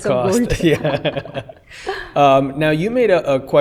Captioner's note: laughter